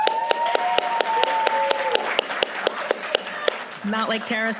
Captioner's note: applause